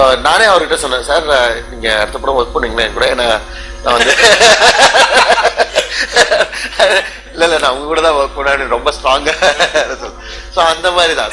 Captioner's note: laughs